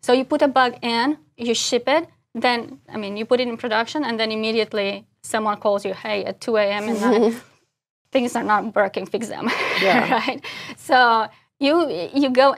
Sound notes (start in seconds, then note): 9.5 laugh